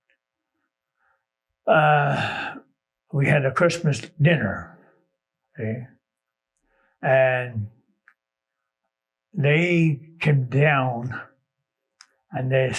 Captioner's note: sigh